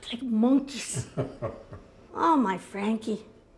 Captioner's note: chuckles